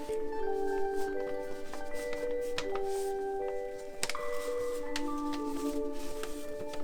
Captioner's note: pages rustling; tranquil music